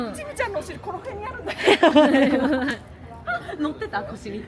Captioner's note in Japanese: 笑い